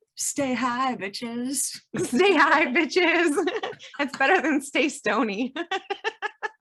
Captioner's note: laughs